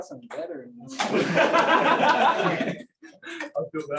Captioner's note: laughter